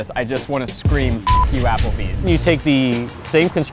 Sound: beep

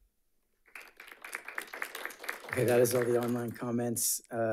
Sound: audience applauding

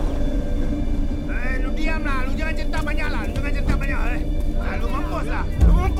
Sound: Malay Language

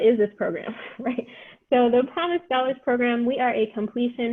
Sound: laughter

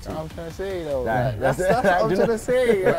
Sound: chuckles

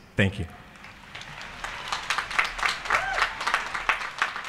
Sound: applause

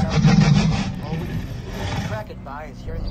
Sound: Indominus growling

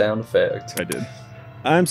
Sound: makes kissy sounds

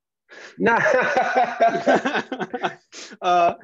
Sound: laughs

